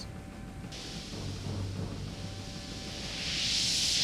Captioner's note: loud static